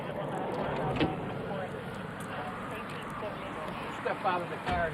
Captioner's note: door clicks